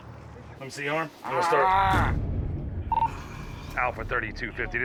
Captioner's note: groans loudly